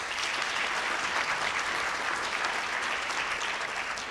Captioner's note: applause